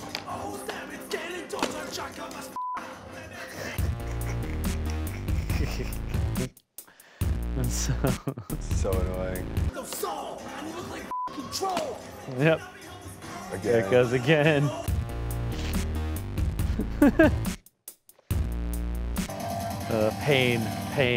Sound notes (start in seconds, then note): 3.3 laughs; 3.7 intense music; 11.1 beep; 14.9 intense music; 16.5 laughs